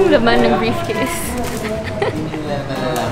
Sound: giggles

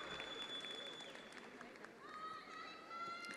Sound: attendees applauding

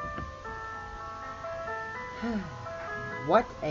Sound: breathing

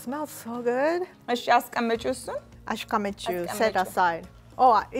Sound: speaking Amharic

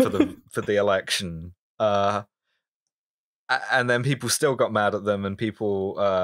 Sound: laughter

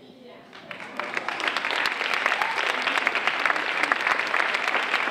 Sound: audience applauding

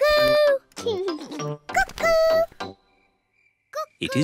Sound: laughs

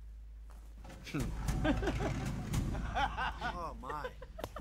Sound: laughter/chatter

